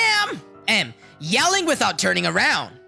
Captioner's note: yelling without turning around